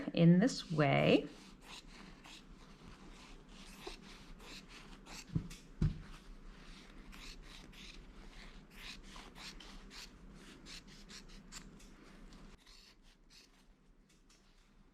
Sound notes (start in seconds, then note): 1.3 scissors snipping